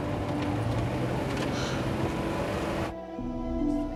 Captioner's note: sighs